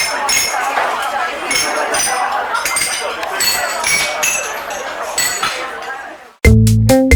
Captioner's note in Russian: звон посуды